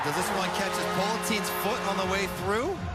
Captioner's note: horn; cheering